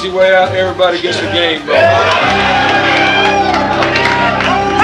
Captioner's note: all cheering